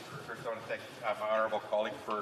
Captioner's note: speaking French